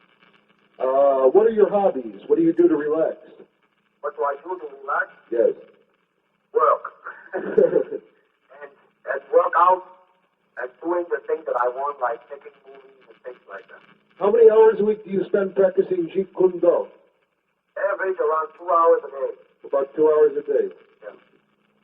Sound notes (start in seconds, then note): 6.8 laugh